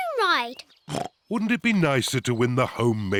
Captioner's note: oinks